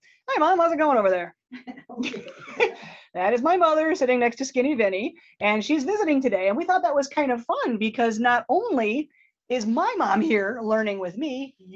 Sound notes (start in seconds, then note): 1.5 Lee's mom chuckles